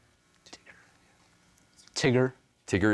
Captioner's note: whispering